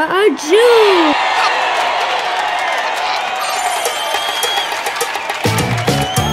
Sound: giggling

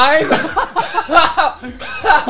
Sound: laughing

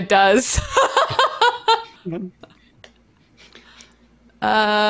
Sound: laughs

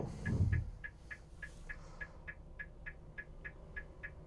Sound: blinker clicking

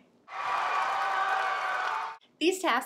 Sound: people cheering

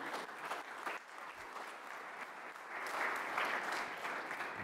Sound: audience applauding

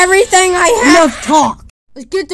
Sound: record scratches

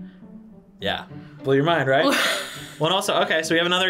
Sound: laughs

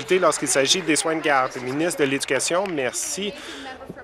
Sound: applause

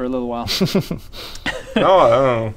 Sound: uncaring laughter

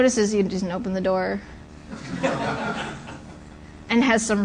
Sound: laughter

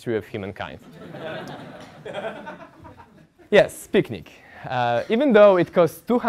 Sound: laugh

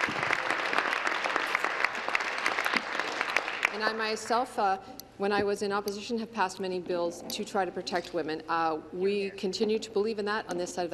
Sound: applause

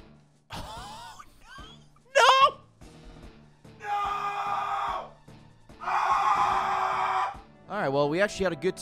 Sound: screams of pain

